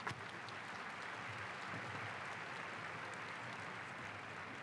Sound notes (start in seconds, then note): 0.0 applause